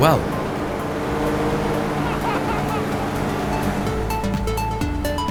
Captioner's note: engine rumbling; playful music